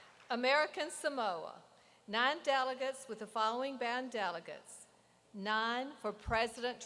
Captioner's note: applause